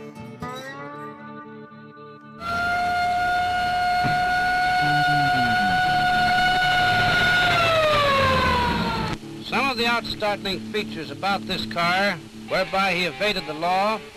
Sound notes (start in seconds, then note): 2.4 sirens